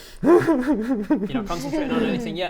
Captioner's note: whimper.wav